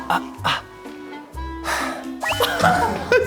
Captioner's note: exhale